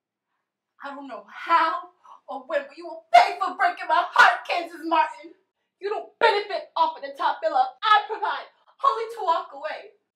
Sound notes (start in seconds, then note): none